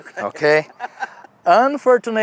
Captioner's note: laughs